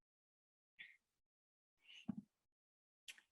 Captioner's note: silence